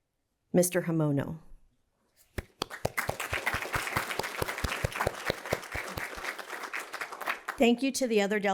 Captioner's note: applause